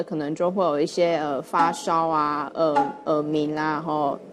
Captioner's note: ringing in the ears